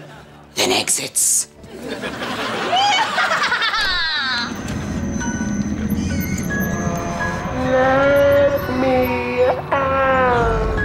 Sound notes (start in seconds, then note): 2.4 cackling; 5.0 creepy music